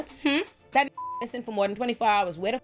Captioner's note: beep